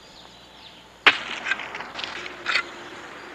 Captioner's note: pick sound